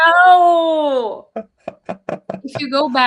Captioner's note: laughing